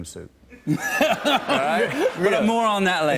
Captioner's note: laughter